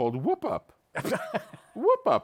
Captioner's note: laughs